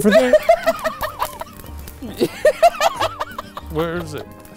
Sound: laughing

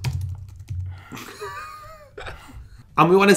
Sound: boys laughing

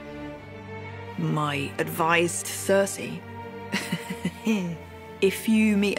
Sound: chuckles

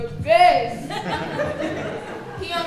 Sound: audience laughing

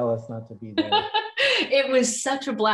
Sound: laughs

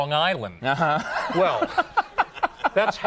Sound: Conan laughs

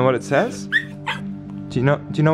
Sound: yips

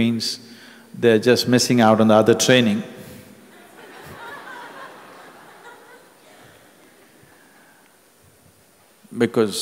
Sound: laughter

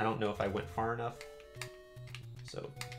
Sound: D-Pad clicks

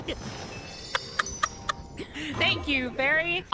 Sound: laughter

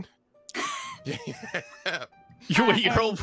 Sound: all laugh

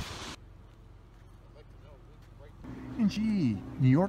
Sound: water splashing; speaks faintly

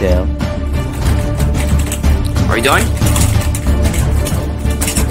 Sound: none

